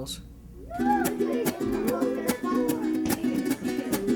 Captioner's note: children chattering